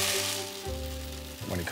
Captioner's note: grain pouring